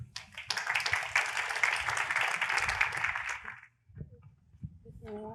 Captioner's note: applause